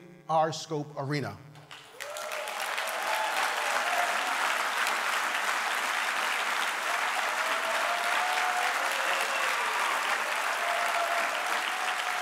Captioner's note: cheers and applause